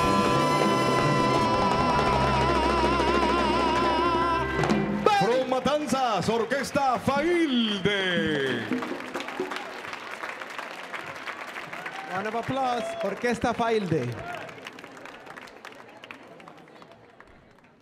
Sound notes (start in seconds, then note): 5.2 MC speaking in Spanish; 8.9 audience clapping; 14.8 audience clapping